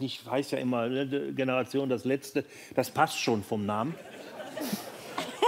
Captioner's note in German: Lachen